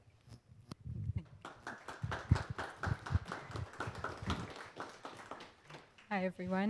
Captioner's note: audience clapping